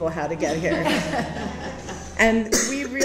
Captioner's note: audience laughs